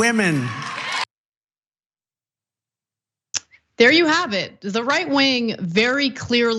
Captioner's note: applause